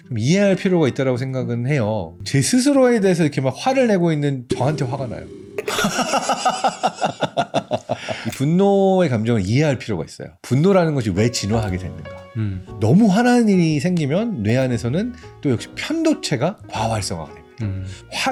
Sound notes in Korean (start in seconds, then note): 4.5 익살스러운 효과음; 5.6 웃음; 11.0 밝은 음악